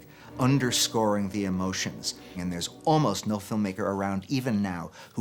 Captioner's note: none